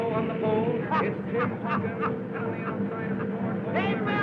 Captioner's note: happy laughing